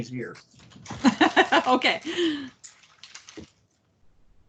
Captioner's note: laughs